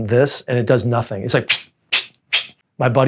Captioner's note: blows raspberries